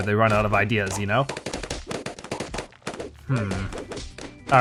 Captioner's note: balloons rapidly popping